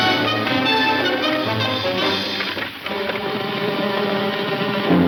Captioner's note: hooves clunking rapidly